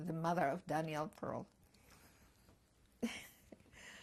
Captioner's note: laughter